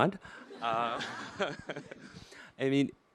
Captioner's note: audience laughter